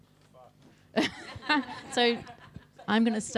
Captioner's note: person laughing